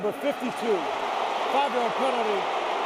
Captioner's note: booing